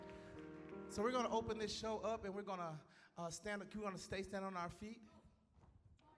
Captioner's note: applause